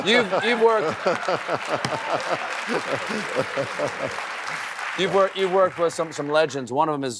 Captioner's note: laughs